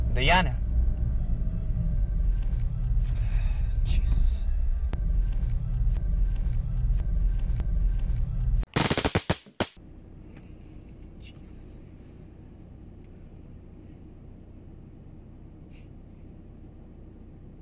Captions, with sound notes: Diana? (sighs) Jesus. (taser zaps) Jesus.